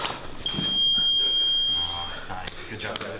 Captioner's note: beep; voiceover